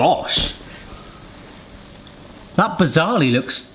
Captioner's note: pizza sizzling